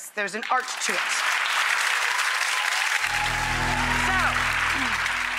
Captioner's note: audience applauds